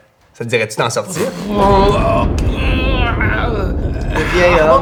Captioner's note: thunderclap